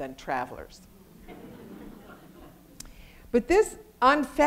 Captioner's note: audience laughter